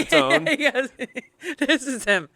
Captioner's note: laughs